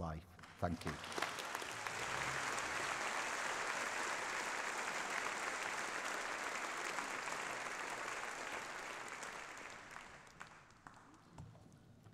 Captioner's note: applause